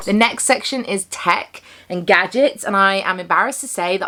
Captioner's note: none